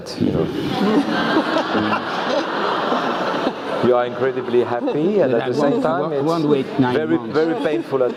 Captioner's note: laugh